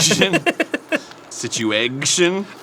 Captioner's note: giggles